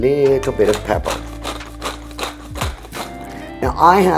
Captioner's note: pepper grinding